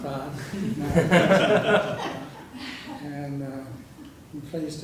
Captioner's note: laugh